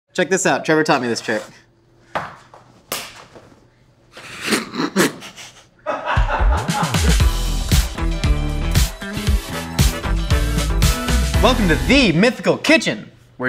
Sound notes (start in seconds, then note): 4.6 all laughing; 7.2 funky guitar music